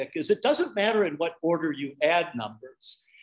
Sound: none

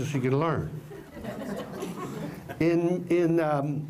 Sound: laughter

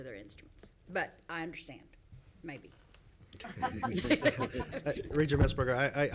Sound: laughing

